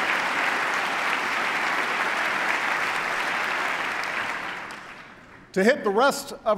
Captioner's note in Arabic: تصفيق